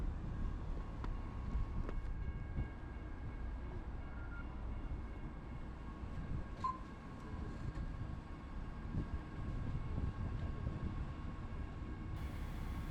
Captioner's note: railroad crossing dings in the background